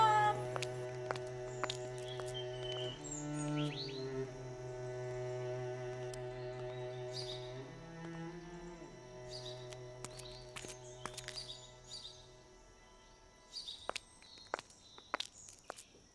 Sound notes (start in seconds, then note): 7.4 birds singing; 13.3 footstep